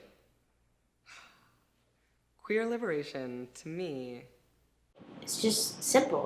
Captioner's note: sigh